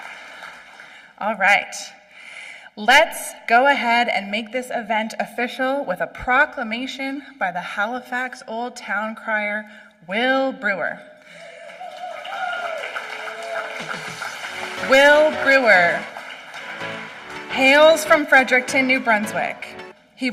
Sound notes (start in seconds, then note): 12.8 applause